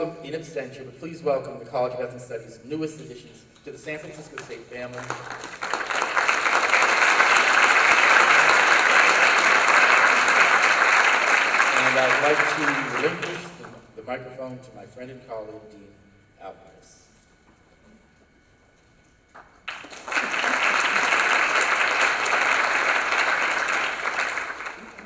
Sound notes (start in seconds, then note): 4.3 applause; 19.6 applause